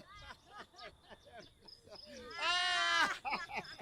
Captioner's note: all laughing